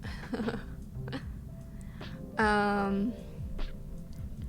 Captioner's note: she giggles